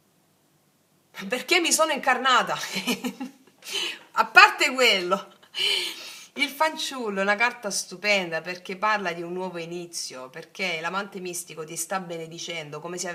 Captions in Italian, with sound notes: perché mi sono incarnata. [risate] A parte quello, il fanciullo è una carta stupenda perché parla di un nuovo inizio, perché l'amante mistico ti sta benedicendo, come se